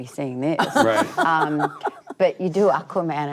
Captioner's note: laughter